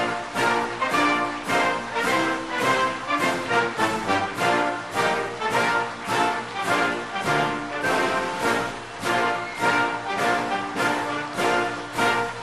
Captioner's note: applause